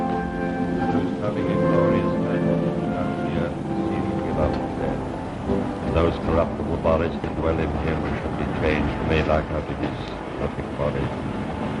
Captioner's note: quiet eulogizing